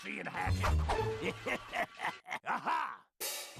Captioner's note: laughing maliciously